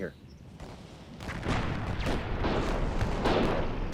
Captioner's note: guns firing